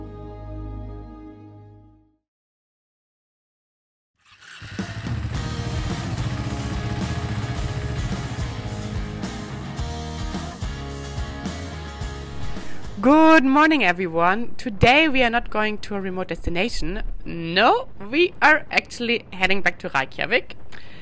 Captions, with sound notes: (bike roaring) (lively music) Good morning, everyone. Today we are not going to a remote destination. No, we are actually heading back to Reykjavik.